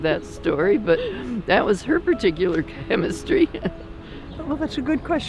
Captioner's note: chuckles